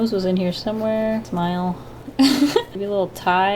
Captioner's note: laughs